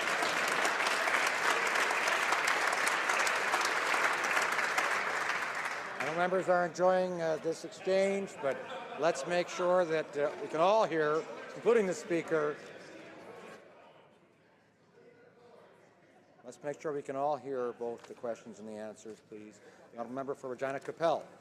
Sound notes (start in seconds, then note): 3.6 some Applause